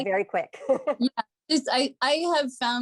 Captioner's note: laughter